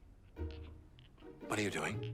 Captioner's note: metal balls clank